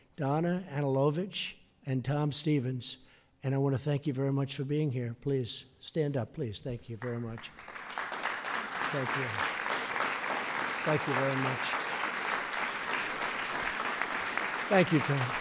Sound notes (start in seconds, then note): 7.6 applause